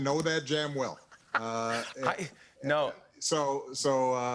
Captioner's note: laughs